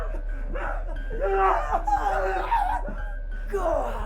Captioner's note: Sue sobbing; Skull-Faced Assailant growling